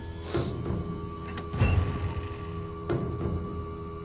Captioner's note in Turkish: Kapı açılma sesi